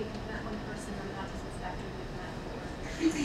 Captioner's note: speaking away from mic